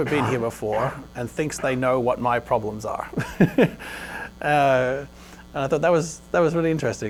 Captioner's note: laughs